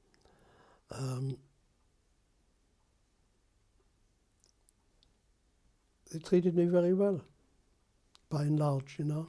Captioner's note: pauses for 6 seconds